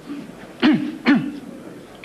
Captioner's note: clears throat twice